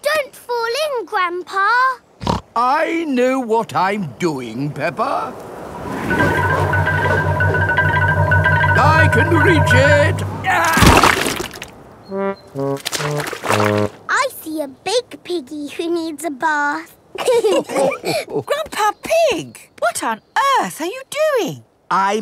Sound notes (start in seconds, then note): 2.2 snorts; 10.4 groans; 17.2 all laughing